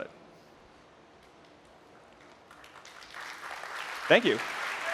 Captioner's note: applause